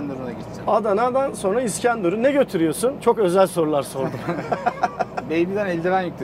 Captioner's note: laughings